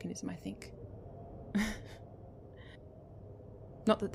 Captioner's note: he laughs and the sound is heavy